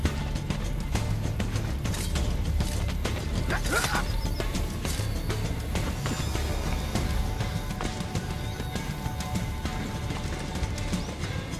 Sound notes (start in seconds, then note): 3.0 hidden blade stabbing sound